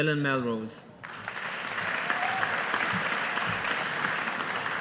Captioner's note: audience applauding